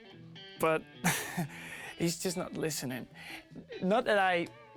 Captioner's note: laughing